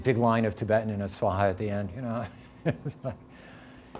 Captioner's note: chuckling